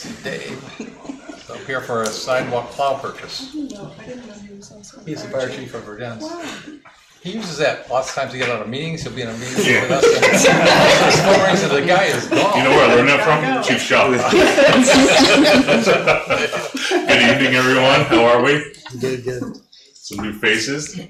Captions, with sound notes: I'm here for a sidewalk cloud purpose. He's the fire chief for Virgance. He uses that lots of times to get out of meetings. He'll be in a meeting with us. (all laughing) So the guy is gone. Do you know where I learned that from? You're too shy. (all laughing) Good evening, everyone. How are we? Good, good. Some new faces.